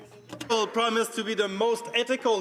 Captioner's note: speaking French